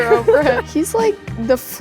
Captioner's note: laughs